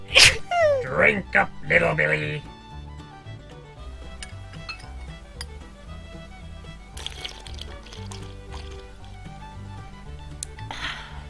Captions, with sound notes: Drink up, Little Billy. [Billy slurping] [Billy sighs]